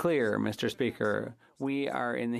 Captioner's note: speaking French